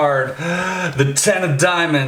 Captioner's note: gasps